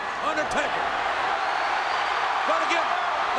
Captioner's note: audience cheers